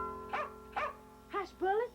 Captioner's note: dog barking